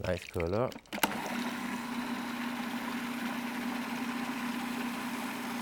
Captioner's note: food processor whirs